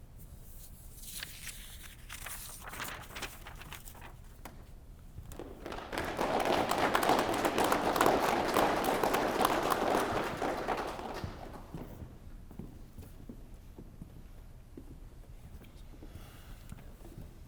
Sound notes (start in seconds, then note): 5.3 applause